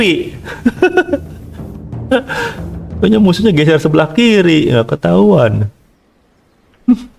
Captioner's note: laughs